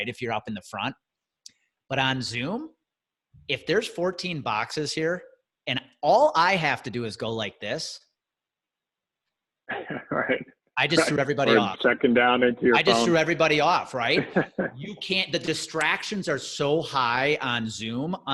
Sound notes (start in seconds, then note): 9.7 chuckles; 14.0 laughs